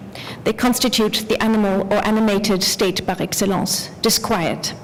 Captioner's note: french